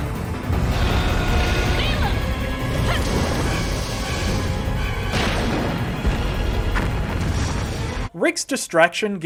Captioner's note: T Rex roaring